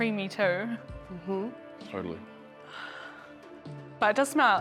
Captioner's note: exhales